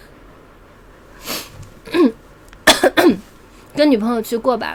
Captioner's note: cough cough